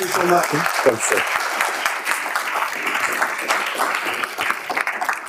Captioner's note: audience clapping